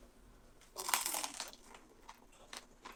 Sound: crunch crunch

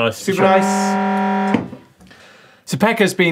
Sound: buzzer

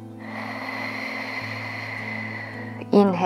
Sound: inspiring music continues; breathing

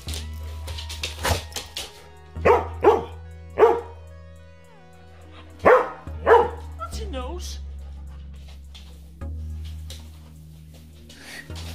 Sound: Max barks

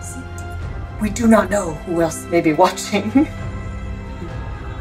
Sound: background music; giggles; background music

